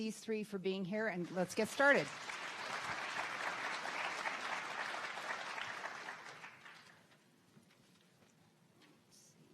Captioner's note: audience clapping